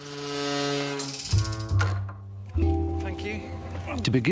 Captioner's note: hatch creaking